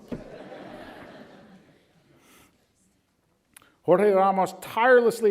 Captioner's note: audience laughs